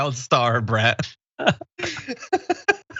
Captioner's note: laugh